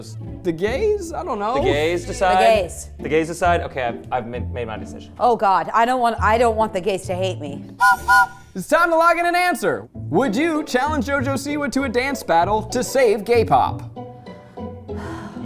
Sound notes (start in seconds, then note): 7.8 train whistle blowing; 13.9 light music